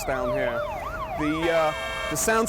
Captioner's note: cars honking